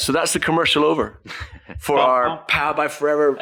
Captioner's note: chuckles